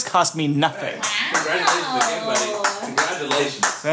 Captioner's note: clapping